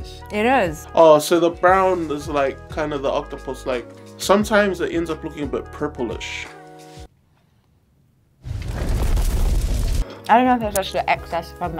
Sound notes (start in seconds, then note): 8.4 fire blazes